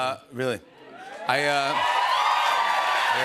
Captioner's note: cheers and applause